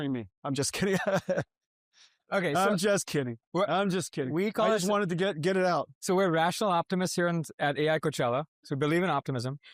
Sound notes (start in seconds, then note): 0.7 chuckling